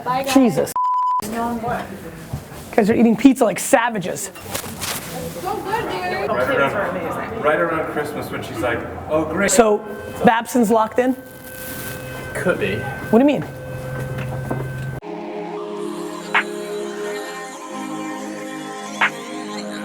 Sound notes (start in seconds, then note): 6.2 people chat; 7.5 voiceover